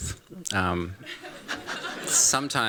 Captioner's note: laughter